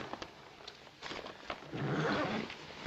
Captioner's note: horse whinnying